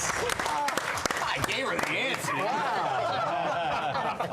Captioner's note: laughter